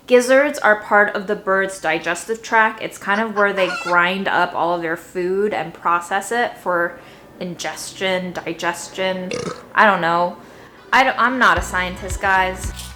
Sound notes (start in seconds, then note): 3.0 cock crowing; 9.2 burps; 12.7 upbeat music